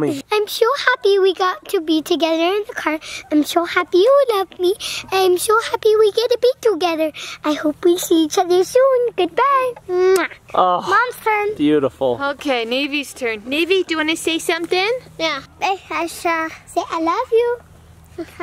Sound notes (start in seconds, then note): 10.0 kiss